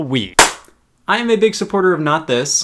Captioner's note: hands clap